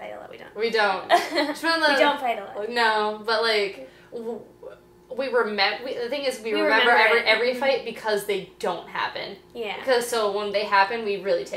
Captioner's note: laughing